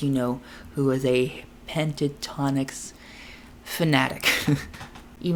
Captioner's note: laughs